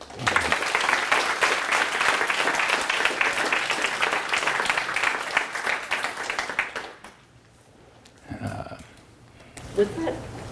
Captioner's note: applause